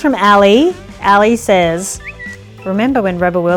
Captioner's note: lips whistle